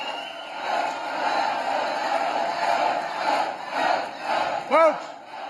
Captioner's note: applause